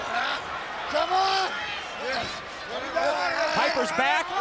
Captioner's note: wrestlers grunting